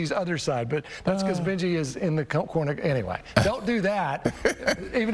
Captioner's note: laughter